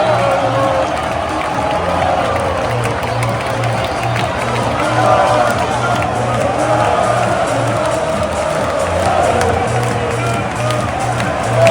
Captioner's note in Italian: Applauso